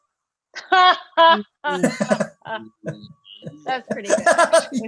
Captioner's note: laughs